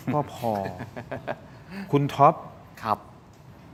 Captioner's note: laughs